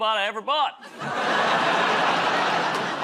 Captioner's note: laughter